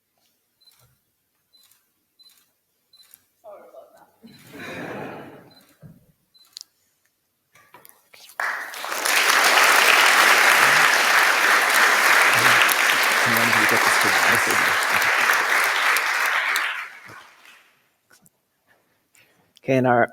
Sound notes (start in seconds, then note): 4.1 applause; 4.3 laughter